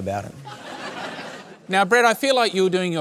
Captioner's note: laughter